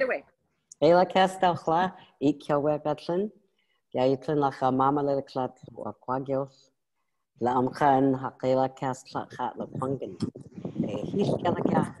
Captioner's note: speaking in First Nation language